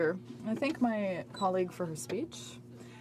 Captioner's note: speaking in french